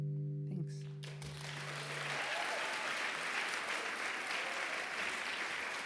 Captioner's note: applause